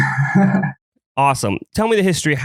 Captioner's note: laughs